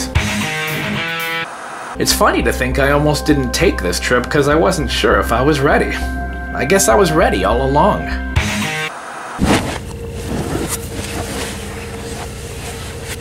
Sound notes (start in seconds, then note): 0.2 upbeat music; 0.7 static hissing; 8.4 upbeat music; 8.6 static hissing; 8.8 air whooshing